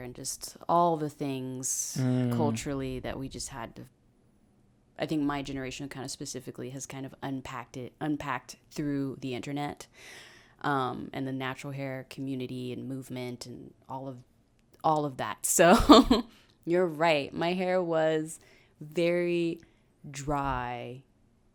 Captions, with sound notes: And just, all the things, culturally, that we just had to, I think my generation, kind of specifically, has kind of unpacked it, unpacked through the internet. And the natural hair community movement, and all of that, so. (laughs) You're right, my hair was very dry.